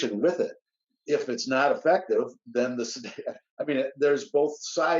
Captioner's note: laughs